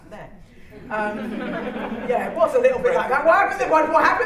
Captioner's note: laughter